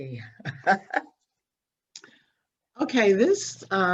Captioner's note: laughs